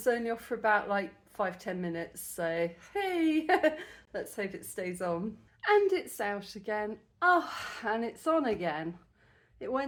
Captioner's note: sigh